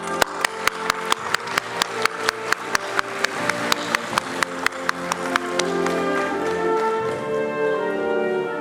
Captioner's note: applause